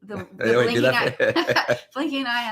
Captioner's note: laughs